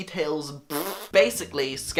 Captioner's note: fart noises